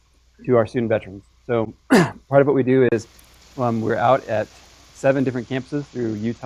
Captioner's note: cough